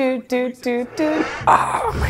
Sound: groans

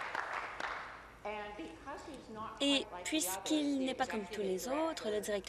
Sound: applause

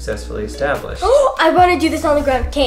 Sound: inhales excitedly

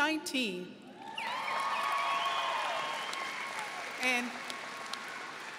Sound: audience cheering

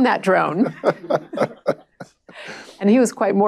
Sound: laughter

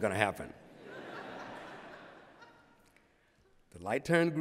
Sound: laughter

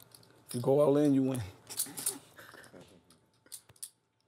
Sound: laugh

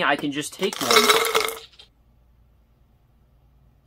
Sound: marbles pour out

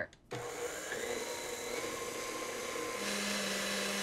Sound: mixer whirs

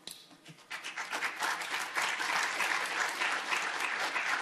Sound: audience applauding

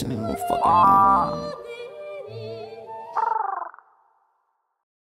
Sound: bird noises; wahhhhh

